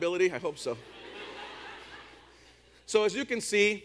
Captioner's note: audience laughs